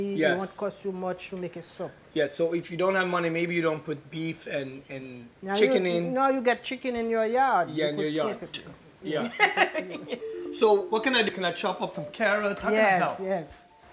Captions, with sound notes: Yes. Yeah, so if you don't have money, maybe you don't put beef and -- and chicken in. Yeah, in your yard. Khhht! Yeah. [ Laughs ] Yes, we put them in. So, what can I do? Can I chop up some carrots? How can I help?